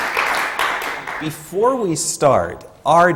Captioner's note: applause